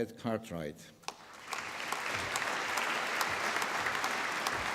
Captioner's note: applause